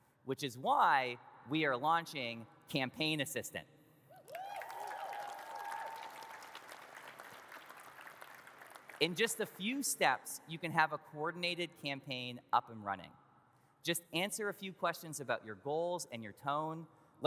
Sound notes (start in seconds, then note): 4.2 audience cheers and claps